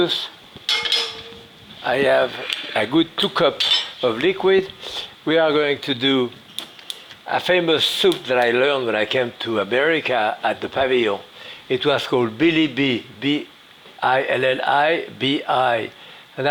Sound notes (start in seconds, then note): 0.6 utensil tapping; 4.8 sniffs